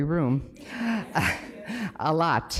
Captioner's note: laughs